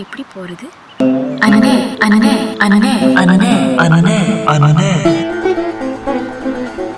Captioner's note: brother-repeats in echo